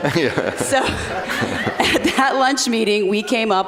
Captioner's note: laughs